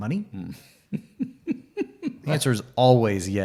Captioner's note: laughs